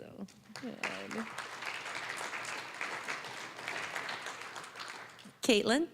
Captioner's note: applause